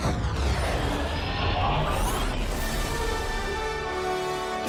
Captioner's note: star wars lasers blasting